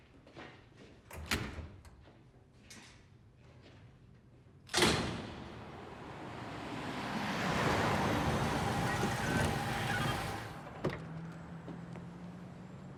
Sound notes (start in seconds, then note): 4.8 door slams